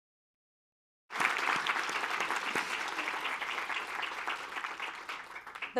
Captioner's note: applause